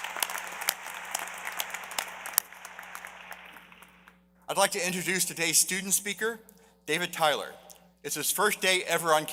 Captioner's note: applause